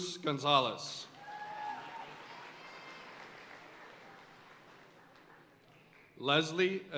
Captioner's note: audience cheering and applauding